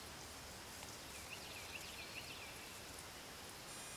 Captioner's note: bird chirping